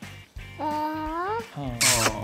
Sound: coos

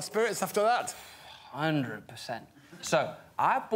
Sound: sighs

